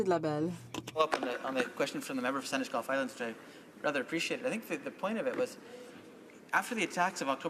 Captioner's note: speaking in french